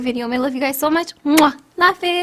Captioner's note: blows kiss